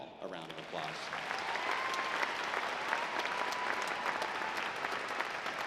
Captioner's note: audience applauding